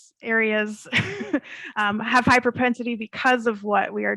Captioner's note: chuckles